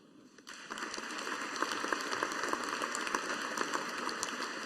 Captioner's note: audience applauding